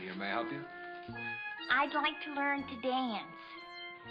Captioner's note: nasal voice